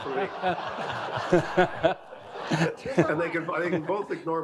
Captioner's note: audience laughing